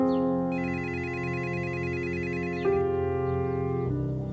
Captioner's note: phone ringing